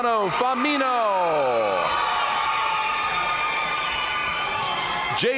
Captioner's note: audience cheering and applauding